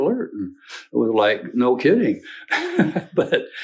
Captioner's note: laughs